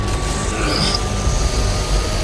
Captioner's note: breathing in pain